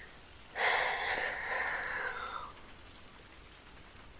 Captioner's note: I sigh too deeply lol